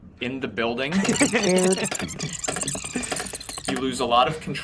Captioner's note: group laughing; tape garbling